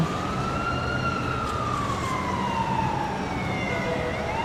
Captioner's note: siren blaring